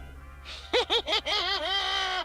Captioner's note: laughs